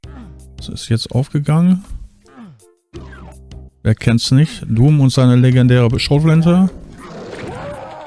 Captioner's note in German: schreien